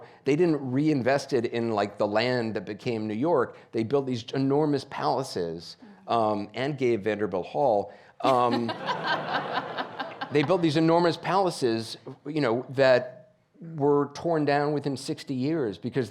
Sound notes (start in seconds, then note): 8.3 audience laughing